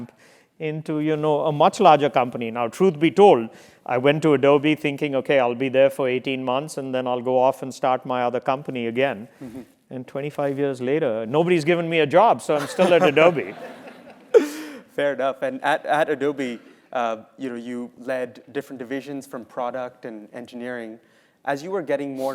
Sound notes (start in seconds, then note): 12.6 laugh